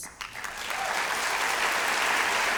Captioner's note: applause